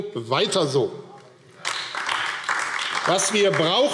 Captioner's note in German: Beifall AfD